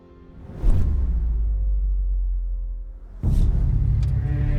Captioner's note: logo whooshes; suspenseful music